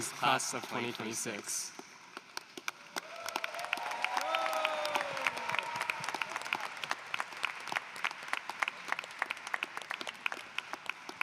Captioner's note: applause